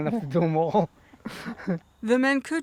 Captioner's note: laughs